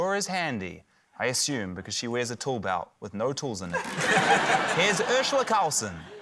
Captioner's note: laughter